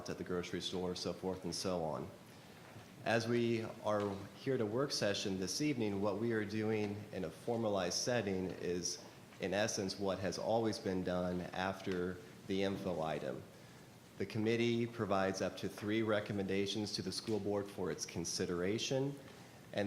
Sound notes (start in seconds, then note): none